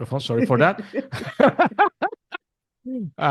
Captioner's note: laughs